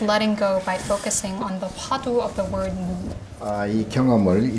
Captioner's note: speaking Korean